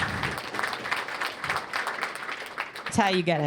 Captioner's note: applause